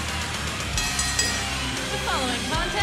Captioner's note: bell ringing